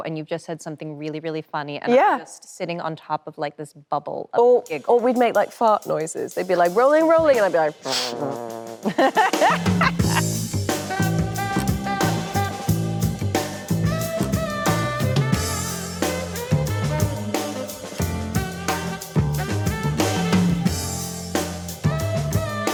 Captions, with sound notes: and you've just said something really, really funny. - Yeah! - I'm just sitting on top of like this bubble of giggle. - Or we'd make like fart noises. They'd be like, "Rolling, rolling," and I'd be like: (imitating passing wind) (Anne laughing cheerfully) (upbeat jazz music) (upbeat jazz music continues)